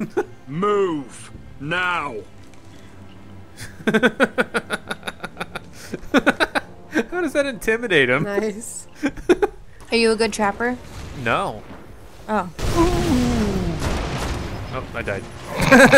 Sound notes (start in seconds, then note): 3.6 laughs; 8.8 voiceover; 12.5 voiceover; 13.2 explosion; 15.5 laughs